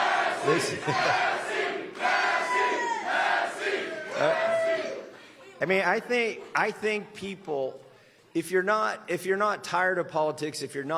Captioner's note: chanting "massie!"